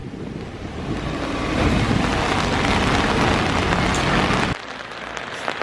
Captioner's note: heavy rain